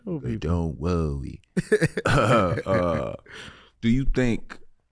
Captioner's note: laughs